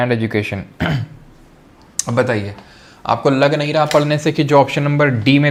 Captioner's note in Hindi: गला साफ़ करने की आवाज़